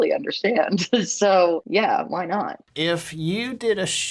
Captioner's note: laughter